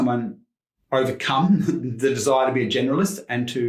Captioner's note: chuckles